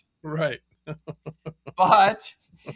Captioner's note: laughs